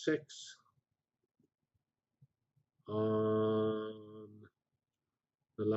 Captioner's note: pause